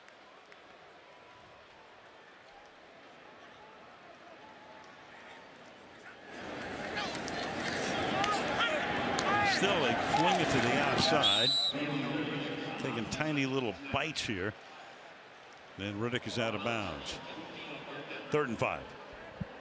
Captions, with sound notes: And still, they fling it to the outside. [whistle] Taking tiny little bites here. And Riddick is out of bounds. Third and 5.